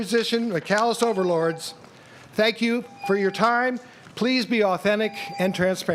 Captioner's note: tone